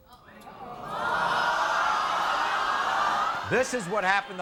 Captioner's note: crowd